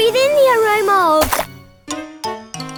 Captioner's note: splat